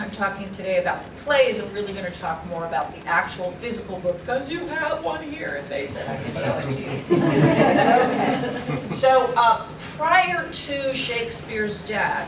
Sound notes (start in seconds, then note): 6.9 laughter